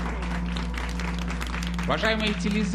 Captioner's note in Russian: аплодисменты